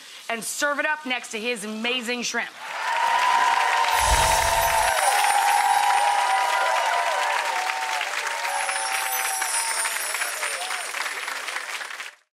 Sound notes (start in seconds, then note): 3.8 magical sound; 5.0 audience cheers; 8.5 magical sound